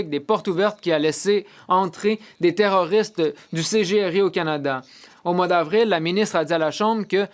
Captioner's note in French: voix de l'interprète